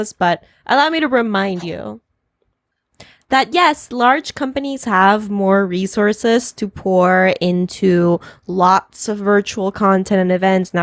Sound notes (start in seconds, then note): none